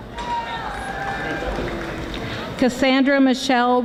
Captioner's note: audience applauding